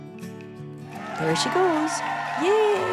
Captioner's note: audience applauds and cheers